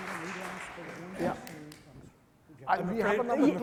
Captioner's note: people chattering